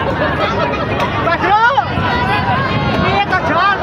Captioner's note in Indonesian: tertawa